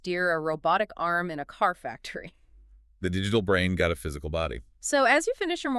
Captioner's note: chuckles